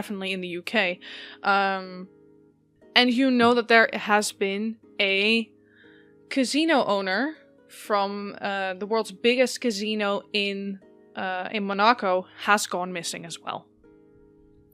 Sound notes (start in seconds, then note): none